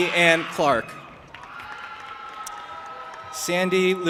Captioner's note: audience applauding and cheering